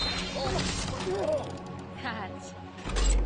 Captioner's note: shouts